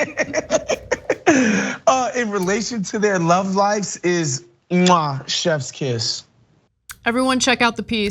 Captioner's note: laugh